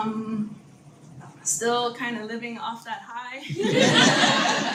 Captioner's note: audience laughs